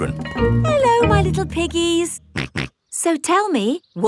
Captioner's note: snorts